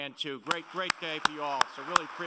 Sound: applauding

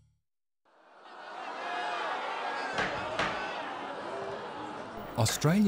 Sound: sounds of a rowdy parliamentary session

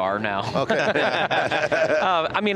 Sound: everyone laughing

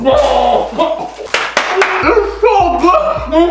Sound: claps

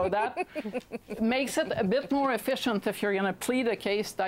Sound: laughter

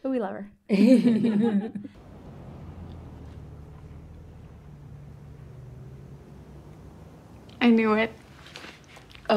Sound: laughs

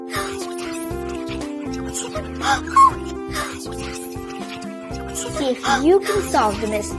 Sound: whispers

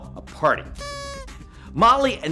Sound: noisemaker blows

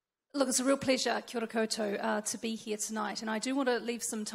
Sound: foreign language

